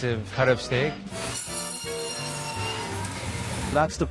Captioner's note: whirring